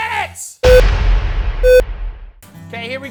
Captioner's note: timer beeps